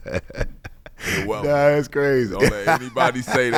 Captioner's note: laughs